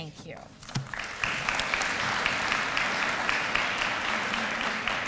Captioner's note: applause